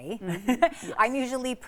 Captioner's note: laughs